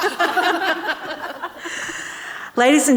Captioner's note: audience and panellists laughing